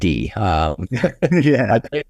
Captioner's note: laughs